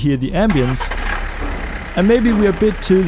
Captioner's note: motor roaring